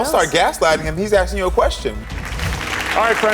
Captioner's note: audience clapping